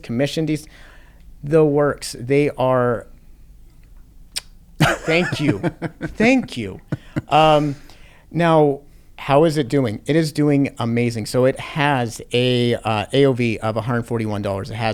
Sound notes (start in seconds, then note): 4.3 smacks lips; 4.8 laughs